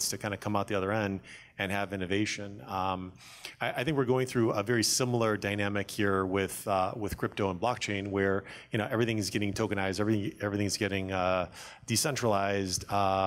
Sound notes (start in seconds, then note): none